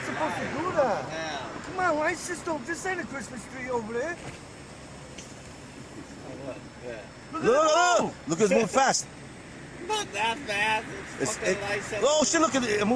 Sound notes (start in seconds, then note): 2.3 overlapping chatter; 11.2 overlapping chatter